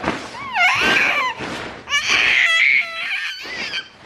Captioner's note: squealing